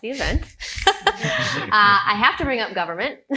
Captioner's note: laughs